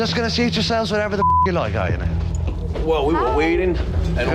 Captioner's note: beep